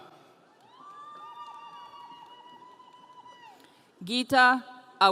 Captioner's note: audience cheering